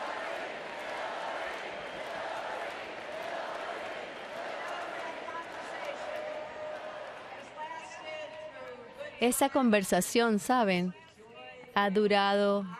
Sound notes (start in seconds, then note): 1.8 audience chanting "hillary"